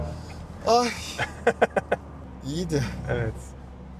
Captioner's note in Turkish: kahkaha